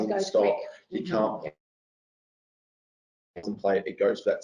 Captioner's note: audio distorts